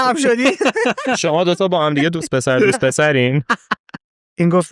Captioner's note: laughs